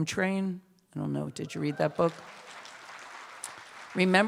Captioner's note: applause